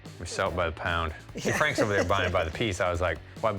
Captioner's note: laughs